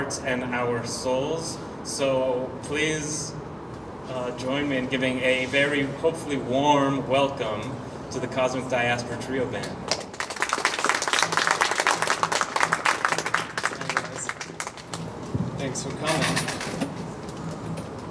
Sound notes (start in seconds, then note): 14.8 clapping